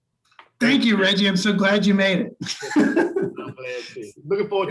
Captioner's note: laughing